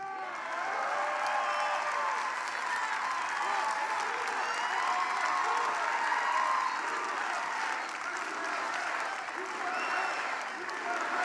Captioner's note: applause